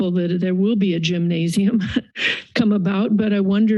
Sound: chuckles

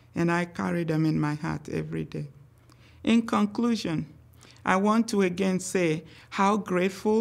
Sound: none

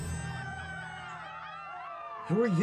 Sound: crowd cheering

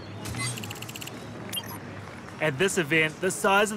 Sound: low chatter

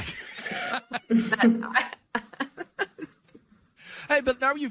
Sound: laughing

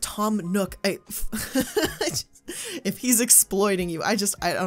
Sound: laughs

